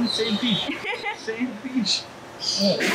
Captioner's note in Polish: się śmieje